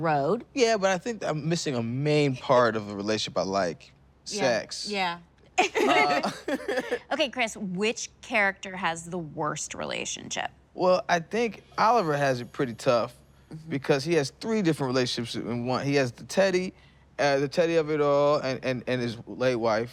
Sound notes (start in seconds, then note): 5.6 laughing